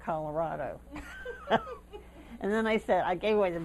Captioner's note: laughter